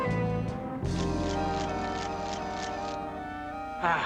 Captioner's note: shutter clicking